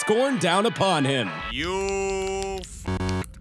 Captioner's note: parade Music; typing